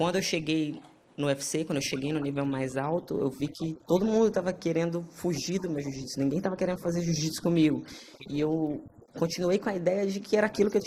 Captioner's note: speaking foreign language